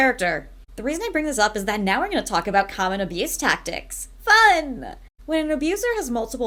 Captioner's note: sarcastically